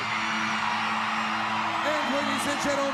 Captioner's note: crowd cheering